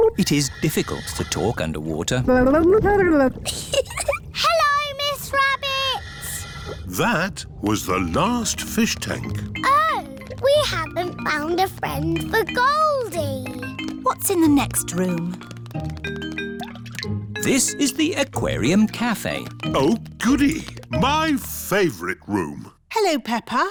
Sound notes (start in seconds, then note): 2.5 gurgles; 3.4 giggles